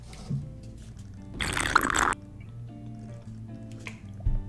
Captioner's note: slurping